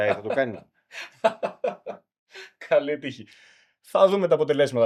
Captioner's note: laughter